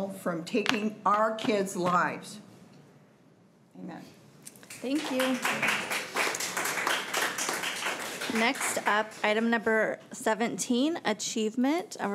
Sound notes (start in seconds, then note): 4.5 crowd clapping